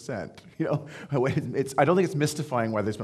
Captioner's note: laughing